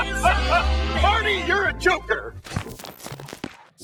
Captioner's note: voiceover